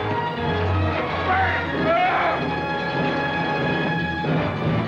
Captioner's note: prisoner yells